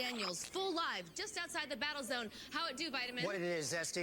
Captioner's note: static